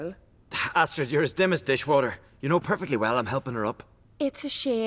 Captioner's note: scoff